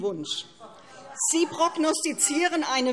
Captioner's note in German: Lachen AfD